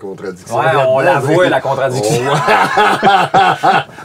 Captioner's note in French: rires